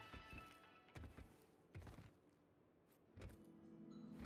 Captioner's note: footsteps; soft music